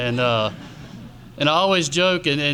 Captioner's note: audience laughs